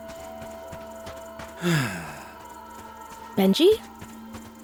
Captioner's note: sighs